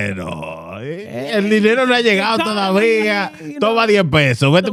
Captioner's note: speaking Foreign Language